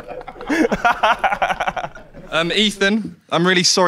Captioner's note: Sidemen laugh